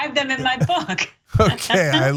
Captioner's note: laugh